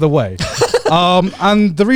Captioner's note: laughing